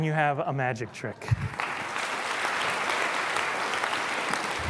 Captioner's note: applause